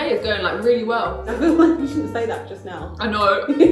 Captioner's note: laughs; giggles